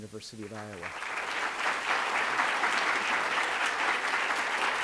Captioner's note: audience applauds